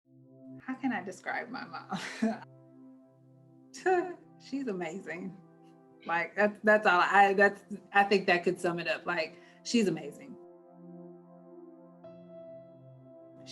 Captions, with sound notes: - How can I describe my mom? (laughs) (brooding music) She's amazing, that's all I got. I think that could sum it up, she's amazing. (brooding music)